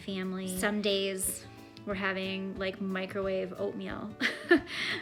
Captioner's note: laughter